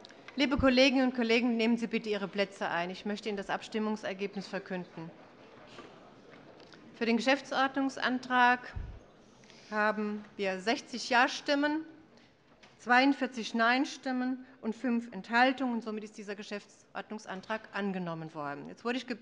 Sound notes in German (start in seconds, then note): none